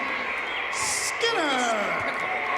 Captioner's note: insects chirping continues